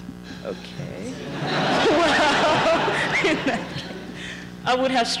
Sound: laughter

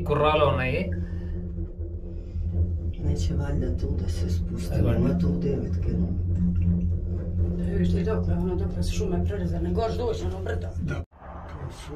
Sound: speaking in foreign language

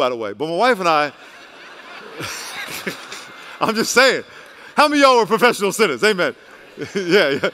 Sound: laughter

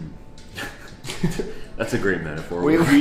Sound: laughs

